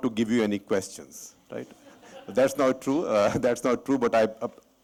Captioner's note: laughter